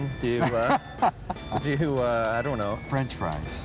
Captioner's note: laughing